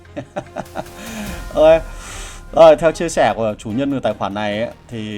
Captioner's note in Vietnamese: tiếng cười